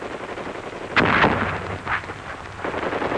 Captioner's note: mortar fire continues